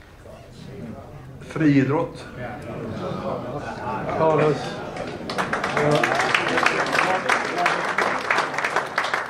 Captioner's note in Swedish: Applåder